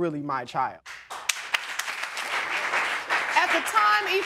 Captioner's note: audience applauding